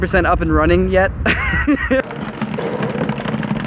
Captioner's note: laughs